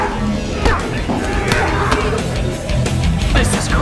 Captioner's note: grunting